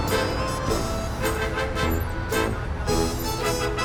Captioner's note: upbeat music playing; cars jamming and passing